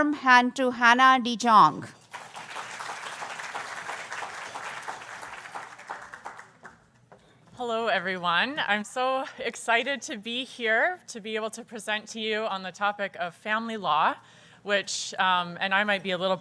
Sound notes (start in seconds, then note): 2.0 applause